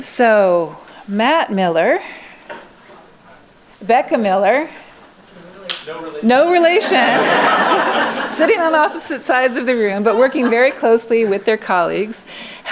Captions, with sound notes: So Matt Miller, Becca Miller-- No relation. No relation. [LAUGHING] Sitting on opposite sides of the room, but working very closely with their colleagues,